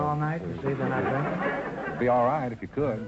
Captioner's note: audience laughter